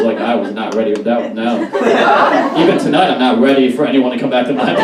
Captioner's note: audience Laughs